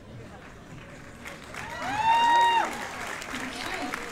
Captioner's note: cheers and applause